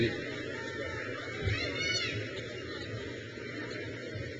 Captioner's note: crowd cheers